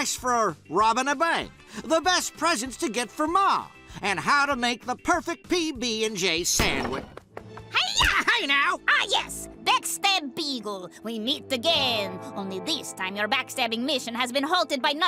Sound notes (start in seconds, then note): 6.8 footsteps; 6.8 door opens; 8.7 dramatic music; 10.6 bad russian accent